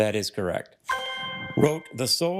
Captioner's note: triumphant chime